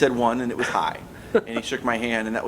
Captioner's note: laughs